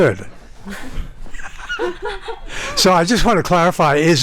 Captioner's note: everyone laughing